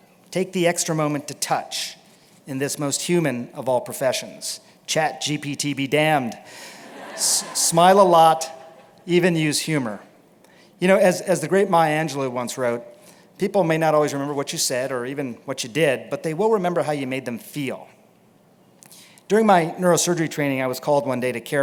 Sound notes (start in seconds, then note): 6.8 laughter